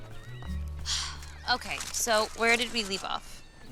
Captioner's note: sighs